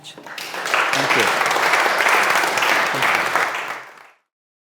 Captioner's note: audience applauds